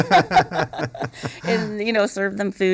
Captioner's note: laughter